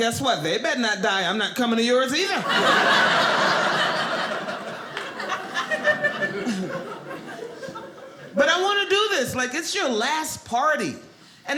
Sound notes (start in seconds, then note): 2.3 audience laughing